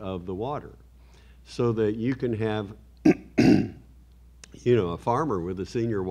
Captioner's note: clears throat